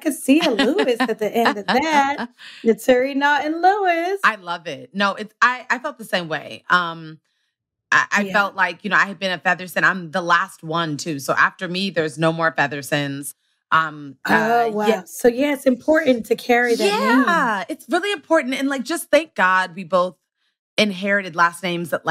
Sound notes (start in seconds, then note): 0.4 laughs